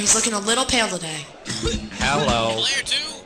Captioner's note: coughing